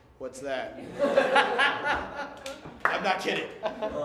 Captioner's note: laughter